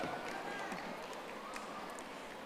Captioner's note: audience applauding